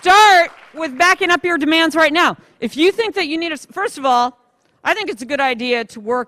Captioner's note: applause